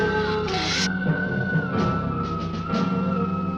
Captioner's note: lizard hissing